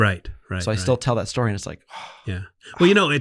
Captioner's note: sighs